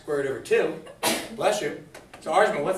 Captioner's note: student sneezes